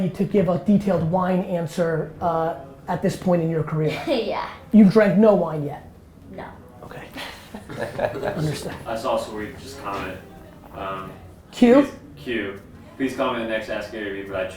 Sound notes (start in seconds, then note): 7.2 group laughter